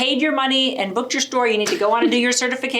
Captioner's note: laughs